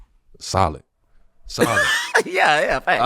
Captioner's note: laughing